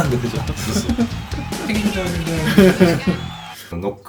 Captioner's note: humming